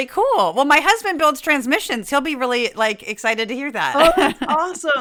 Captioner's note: laugh